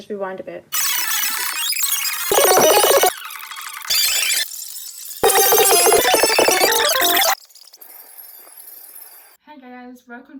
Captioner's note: video sound being rewinded